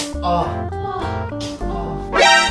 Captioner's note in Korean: 찰싹~